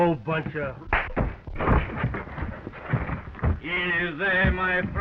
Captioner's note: punch cracking